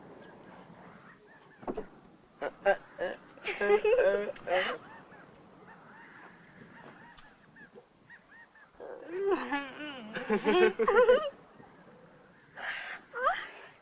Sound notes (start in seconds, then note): 1.6 laughs; 8.9 laughs